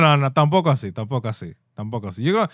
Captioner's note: speaking In Foreign Language